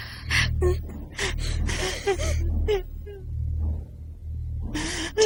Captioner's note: distant pounding